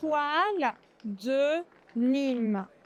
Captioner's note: french